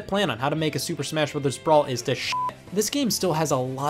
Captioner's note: beep